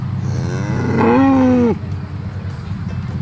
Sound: cow moos

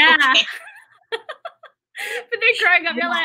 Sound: laughter

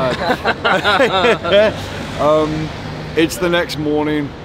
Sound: all laugh

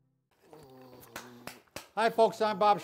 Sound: claps hands

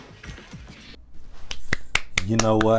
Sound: clapping

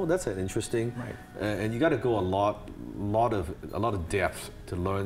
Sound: stuttering

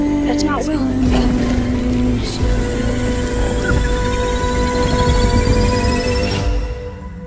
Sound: monster growling

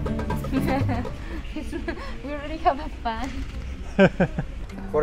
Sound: laughs

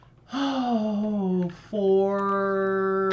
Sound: sighs

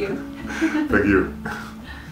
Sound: both laugh

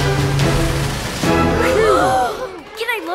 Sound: everyone sighing

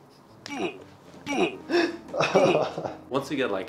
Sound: groaning; laughs

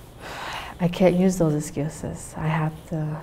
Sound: sighs

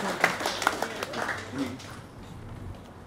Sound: applause

